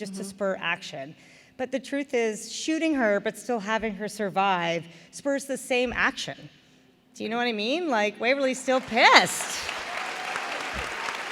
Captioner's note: applause